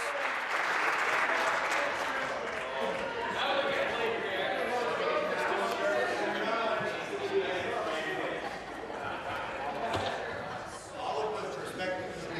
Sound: applause

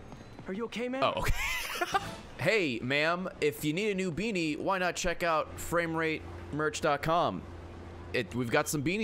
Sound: laughs

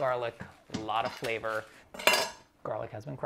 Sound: clattering

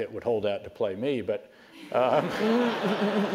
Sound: laugh

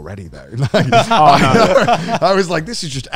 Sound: all laughing

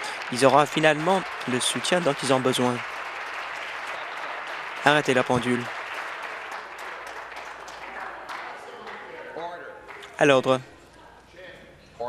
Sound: applause

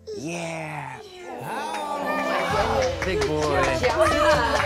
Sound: cheering and clapping

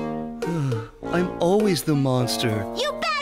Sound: sigh

